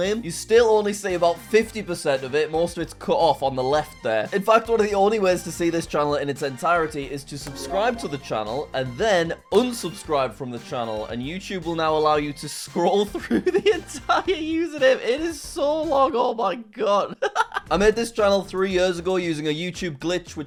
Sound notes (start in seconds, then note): 17.1 laughs